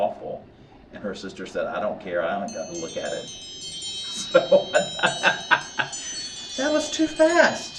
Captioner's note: timer chimes